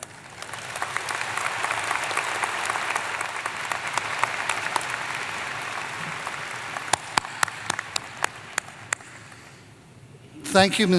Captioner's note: applause